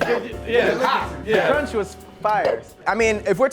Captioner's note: coughing